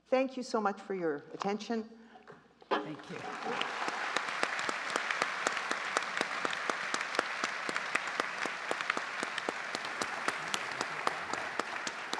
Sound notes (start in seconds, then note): 3.0 justices and audience applauding